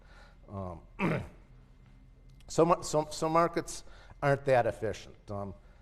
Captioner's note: cough